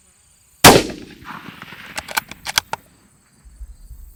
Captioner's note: gunshot